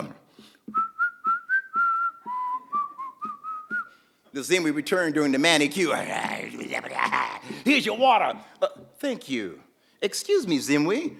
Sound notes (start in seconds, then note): 0.6 whistling; 5.9 Zimwi growling